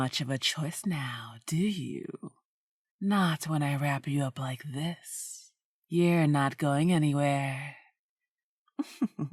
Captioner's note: laughter